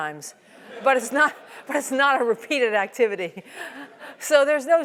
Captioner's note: laugh